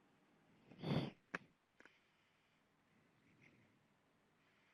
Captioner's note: exhales into mic